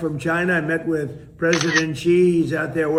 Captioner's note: shutter snaps